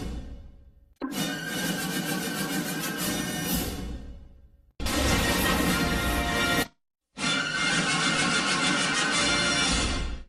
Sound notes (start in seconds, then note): 4.7 electricity zapping as rousing fanfare plays; 7.0 rousing fanfares resuming